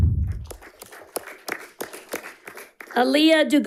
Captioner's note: audience applauding